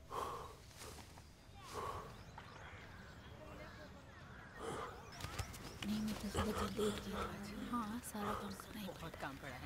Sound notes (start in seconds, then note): 5.8 women talking softly